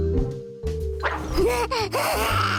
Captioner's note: laughing; yawns